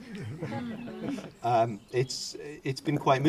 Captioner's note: audience laughter